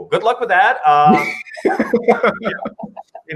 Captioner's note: laughs